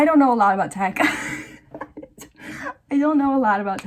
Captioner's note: wheezing